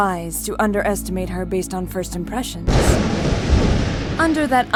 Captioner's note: thunder